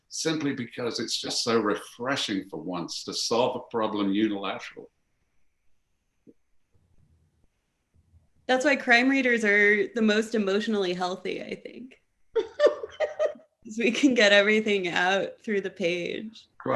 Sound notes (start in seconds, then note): 12.4 laughing